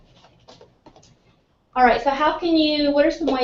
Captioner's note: none